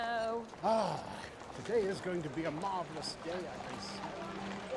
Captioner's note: sighs